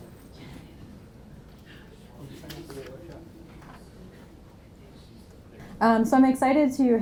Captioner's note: muffled chatting continuing